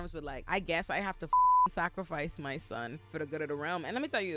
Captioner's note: beep